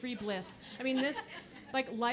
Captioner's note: audience laughing